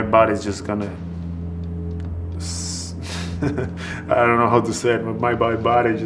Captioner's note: laughs